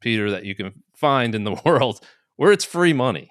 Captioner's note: chuckles